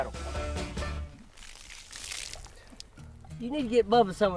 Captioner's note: water splashes on ground